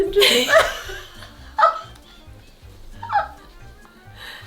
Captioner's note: both laugh